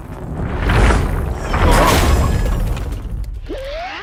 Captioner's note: both shouting